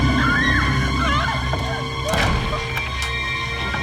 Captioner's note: screaming